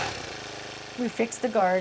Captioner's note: equipment rumbling